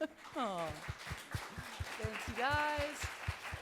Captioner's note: applause